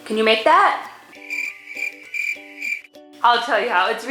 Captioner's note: crickets chirping